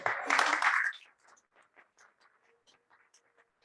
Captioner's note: crowd applauses